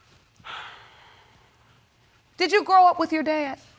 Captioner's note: sighs